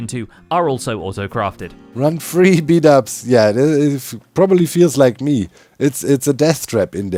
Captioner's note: stammers